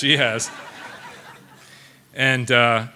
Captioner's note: audience laughing